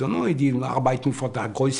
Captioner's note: foreign language